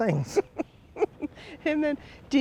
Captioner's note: chuckles